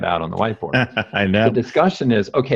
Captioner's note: laughs